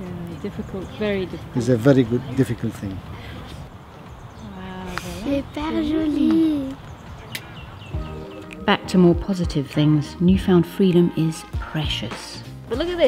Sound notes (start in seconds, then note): 5.4 non-English